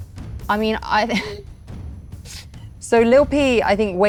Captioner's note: laughs